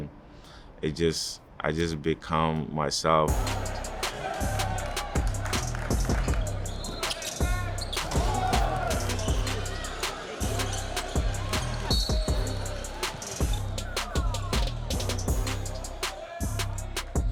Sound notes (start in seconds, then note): 0.1 suspenseful music fades out; 4.2 crowd cheering; 4.2 hip hop music; 7.2 crowd cheering; 7.2 whistle blowing; 12.1 hip hop music continues; 12.1 whistle blowing